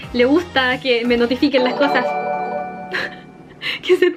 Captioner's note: Twitch alert sounds